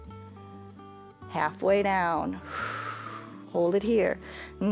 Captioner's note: exhales